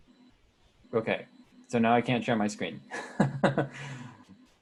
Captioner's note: laughing